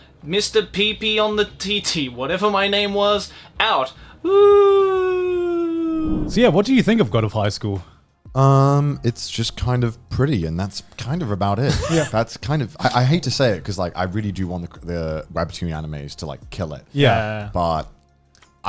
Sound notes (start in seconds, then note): 5.9 air whooshing; 11.6 laughs